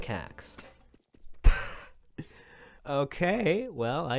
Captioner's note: laughs